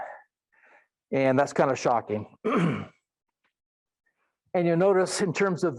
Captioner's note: clears throat